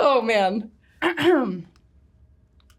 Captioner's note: clears throat